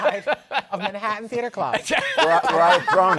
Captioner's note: laughter